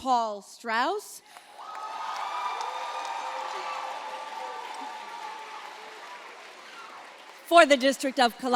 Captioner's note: applause